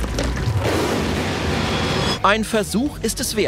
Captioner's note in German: Schrei